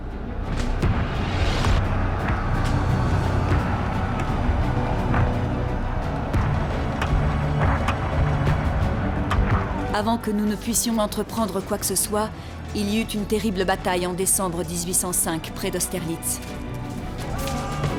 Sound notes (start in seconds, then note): 0.1 intense music; 2.8 soldiers roaring